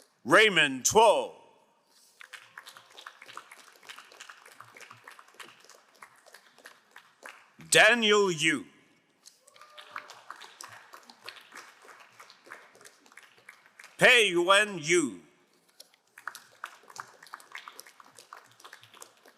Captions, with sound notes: Raymond Tuo. (crowd applauding) Daniel Yu. (crowd applauding) Peyuen Yu. (crowd applauding)